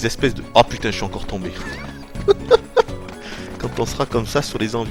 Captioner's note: laughs